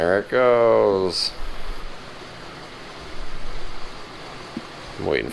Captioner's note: washer hums